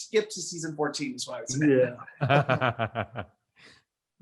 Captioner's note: laughs